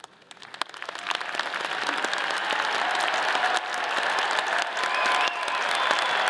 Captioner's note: all applauding; all cheering